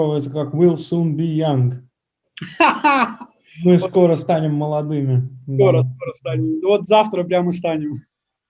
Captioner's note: laughs